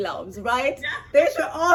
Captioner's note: laughs